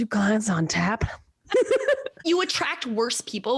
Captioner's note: laughs